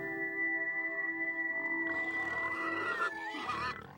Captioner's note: pigs grunting and squealing